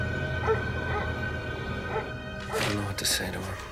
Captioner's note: dog barking